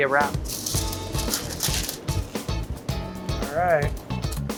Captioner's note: bright upbeat music; wrapper crinkling; bright upbeat music